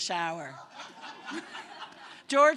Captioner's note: laughter